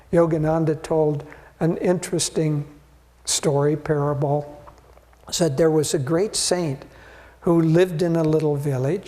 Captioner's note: none